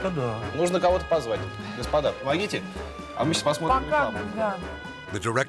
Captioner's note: speaking Russian; interviewer speaking Russian